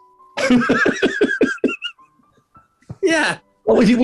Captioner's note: laughing